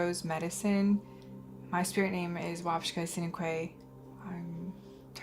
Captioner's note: non-english